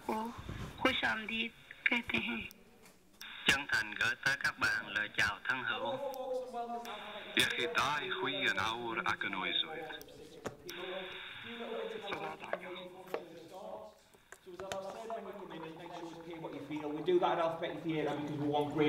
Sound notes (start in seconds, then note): 3.3 voices continue